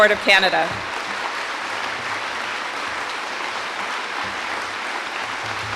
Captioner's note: audience applauding